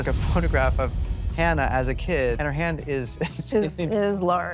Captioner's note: chuckles